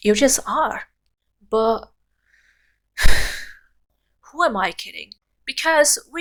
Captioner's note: sigh